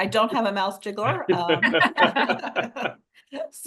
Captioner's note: laughter